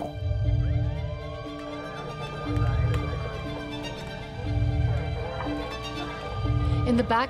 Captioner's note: sirens wailing in distance